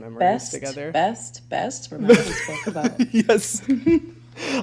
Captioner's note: laughing